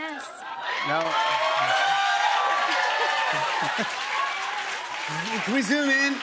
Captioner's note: cheers and applause